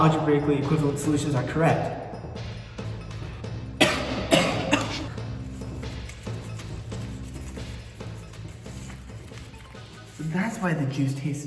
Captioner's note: realistic Coughing